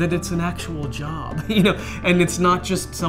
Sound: laughter

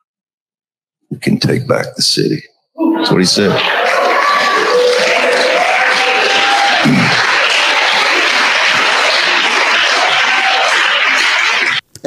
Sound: crowd applauding

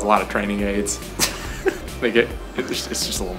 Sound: laughter

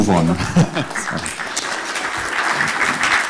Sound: audience applause

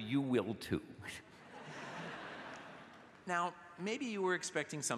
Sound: laughter

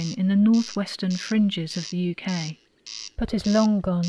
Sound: corncrake calling

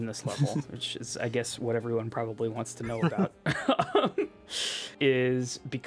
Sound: laughs

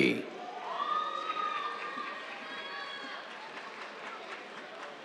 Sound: cheers, applause

